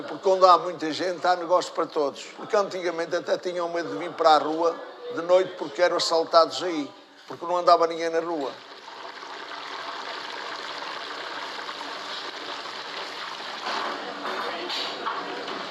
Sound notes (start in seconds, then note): 8.6 french fries frying